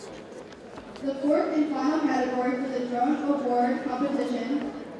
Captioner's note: none